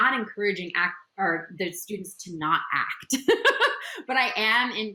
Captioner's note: laughs